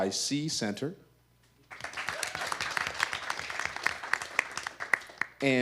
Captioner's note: audience applause